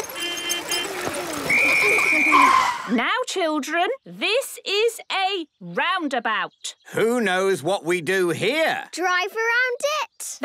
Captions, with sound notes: (whistle blowing) - Now, children, this is a roundabout. - Who knows what we do here? - Drive around it?